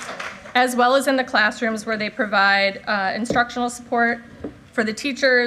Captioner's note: applause